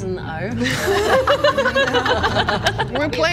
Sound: giggles

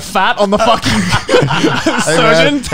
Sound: laughing

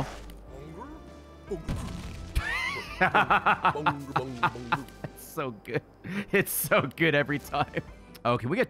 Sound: laughs

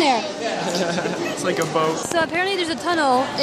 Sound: laughs

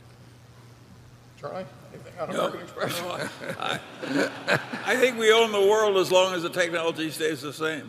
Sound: laughter

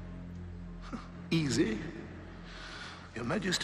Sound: scoffs

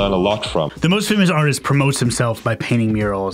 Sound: voiceover

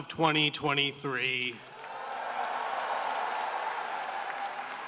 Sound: cheering and applause

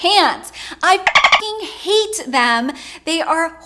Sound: beep

